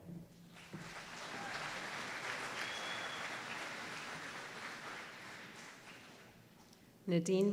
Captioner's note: applause